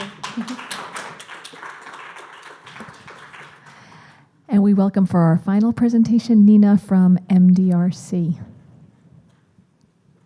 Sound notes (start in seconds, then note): 0.0 clapping